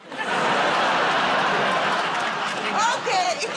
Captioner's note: laughter